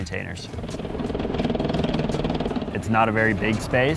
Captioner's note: snow crackles